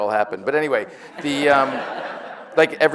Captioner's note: audience laughs